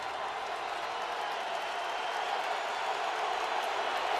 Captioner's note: cheering